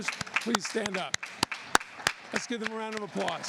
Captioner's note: applause